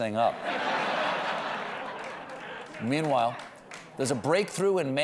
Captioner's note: laughter